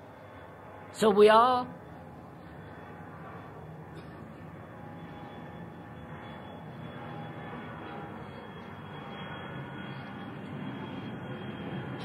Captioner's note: sound of aeroplane